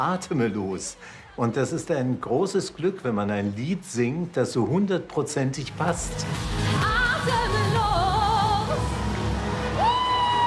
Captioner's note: breathless